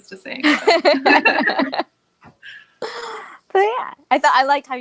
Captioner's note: laughs